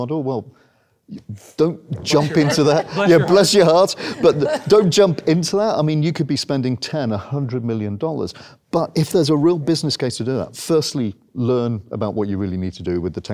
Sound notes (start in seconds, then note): 2.0 audience chuckles